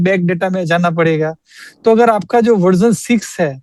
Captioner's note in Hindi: नाक से की जाने वाली आवाज़